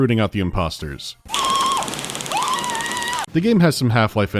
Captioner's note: scream